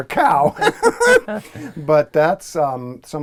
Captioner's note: laugh